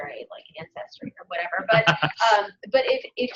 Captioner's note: laughter